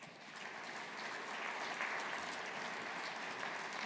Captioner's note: audience applauding